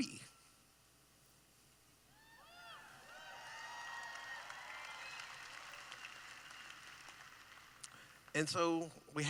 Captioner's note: cheering